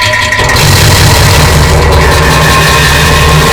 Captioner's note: poop with echoing